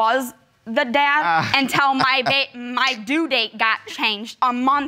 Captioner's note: laughs